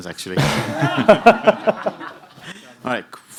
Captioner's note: laughter